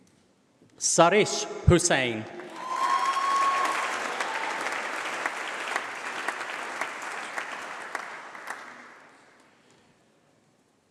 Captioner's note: applause